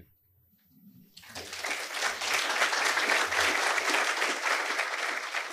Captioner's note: audience clapping